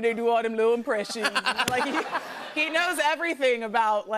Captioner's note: laughter